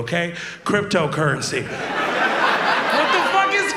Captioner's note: audience laughs